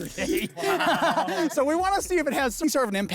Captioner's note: laughs; crew laughs